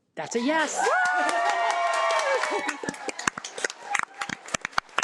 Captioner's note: audience applauding